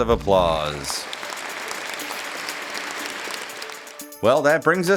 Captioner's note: clapping